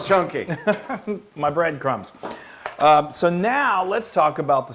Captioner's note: laugh